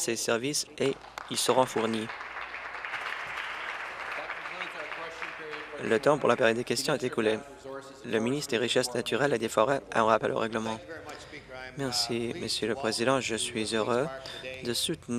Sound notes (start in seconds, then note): 5.1 applause